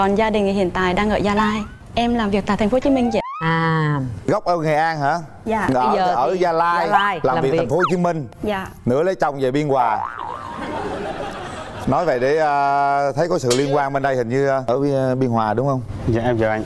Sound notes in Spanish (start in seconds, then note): 10.3 risas